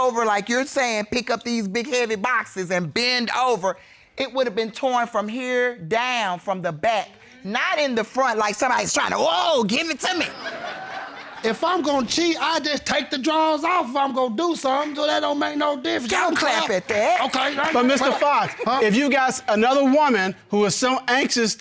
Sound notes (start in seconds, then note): 10.1 audience laughing